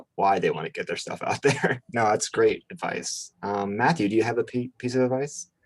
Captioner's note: chuckles